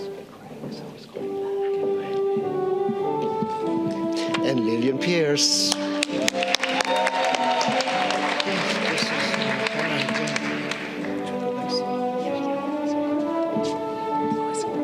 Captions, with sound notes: And Lillian Pierce. (audience cheering)